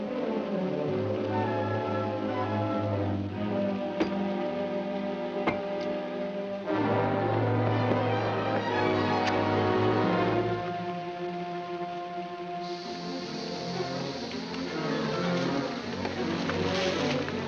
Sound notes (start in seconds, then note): 4.0 whack; 6.7 dramatic music; 9.3 match striking; 10.0 dramatic music; 12.5 fuse hissing